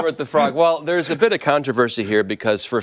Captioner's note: laughter